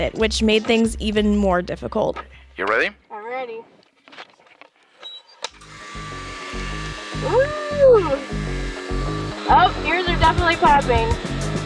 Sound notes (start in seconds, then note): 5.8 air pressurizing